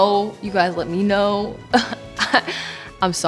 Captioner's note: chuckles